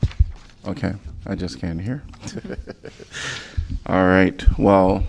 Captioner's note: laughter